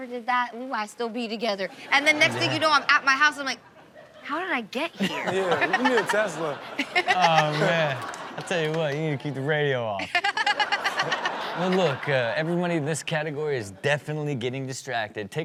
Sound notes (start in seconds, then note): 5.0 everyone laughs